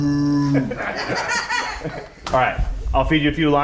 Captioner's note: people laughing